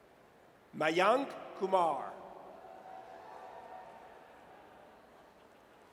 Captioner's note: audience cheers